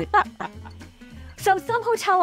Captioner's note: laugh